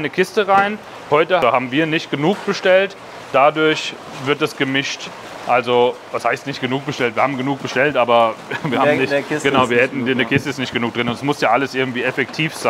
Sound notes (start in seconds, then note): 8.4 laughs